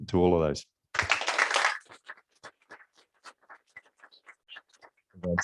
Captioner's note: applause